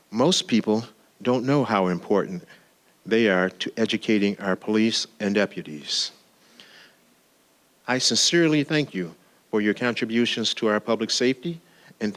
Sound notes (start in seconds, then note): none